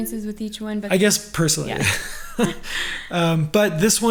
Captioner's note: laughing